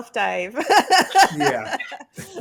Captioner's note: laughs